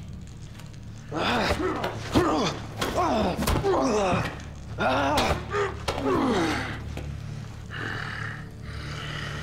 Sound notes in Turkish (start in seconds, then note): 1.0 Bağırma sesleri